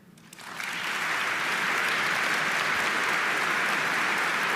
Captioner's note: audience applauding